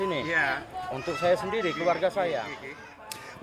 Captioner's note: men speaking Austronesian language; speaking Austronesian language